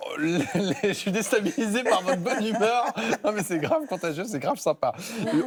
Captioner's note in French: rires